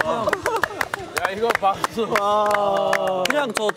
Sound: clapping

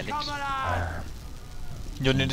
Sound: notable sigh

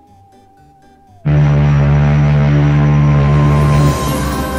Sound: loud ships horn

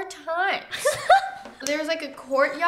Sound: laughs

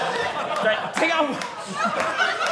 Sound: audience laughing

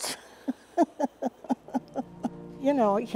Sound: laughs

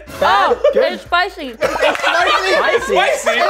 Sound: laughter

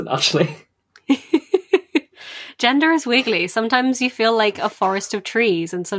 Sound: laughing; laughs

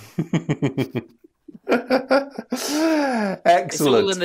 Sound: laughs

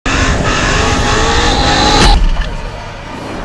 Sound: engines roaring

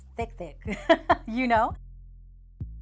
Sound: laughing

